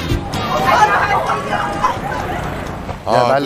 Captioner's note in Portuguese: O fã de Seon Ho está gritando